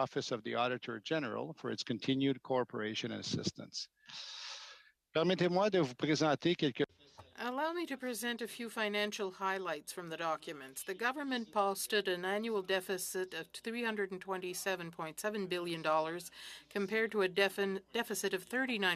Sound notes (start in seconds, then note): 10.2 speaking French